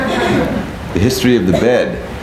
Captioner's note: people laughing